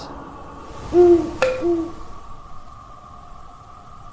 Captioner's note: owl hoots